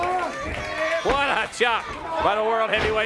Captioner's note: crowd chatter